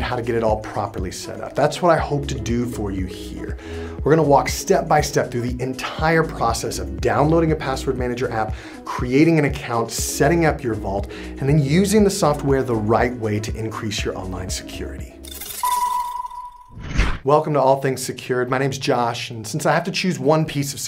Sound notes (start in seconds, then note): 15.7 upbeat music; 16.8 air whooshing